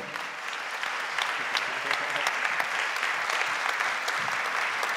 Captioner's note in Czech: Potlesk